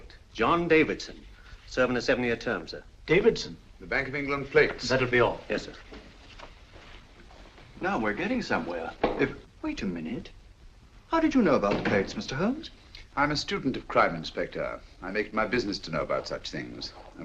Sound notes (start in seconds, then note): none